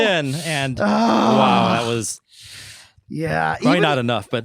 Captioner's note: inhales sharply